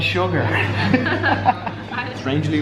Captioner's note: all laughing